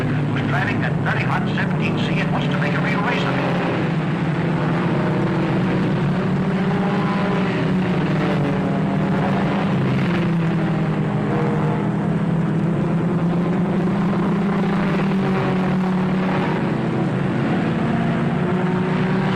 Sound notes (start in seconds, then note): 3.9 engines roaring